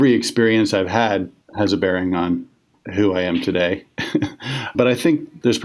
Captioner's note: chuckles